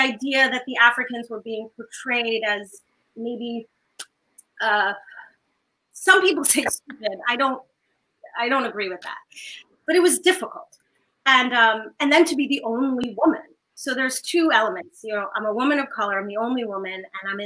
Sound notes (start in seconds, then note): none